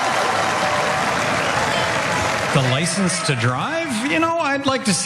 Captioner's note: applause